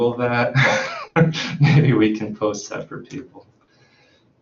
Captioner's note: laughs